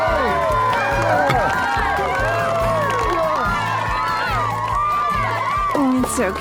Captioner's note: cheering, applause